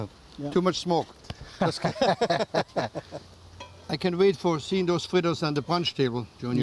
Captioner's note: laughter